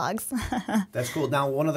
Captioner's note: chuckle